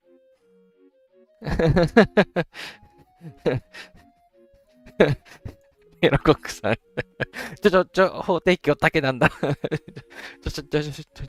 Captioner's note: laughing